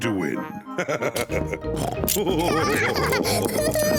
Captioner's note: both laugh